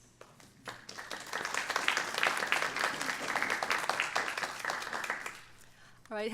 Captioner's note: clapping